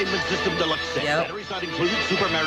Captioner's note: voice-over